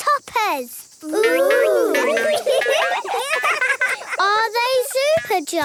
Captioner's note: laughing